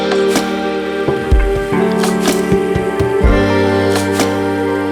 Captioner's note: working sounds